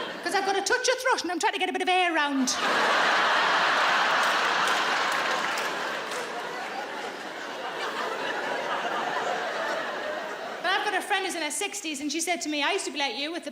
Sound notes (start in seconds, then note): 2.5 audience laughs